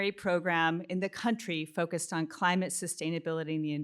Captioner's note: none